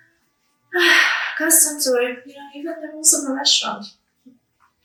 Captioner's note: sighs